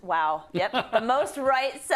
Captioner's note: laugh